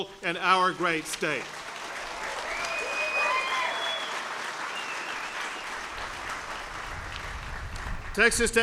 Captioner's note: applause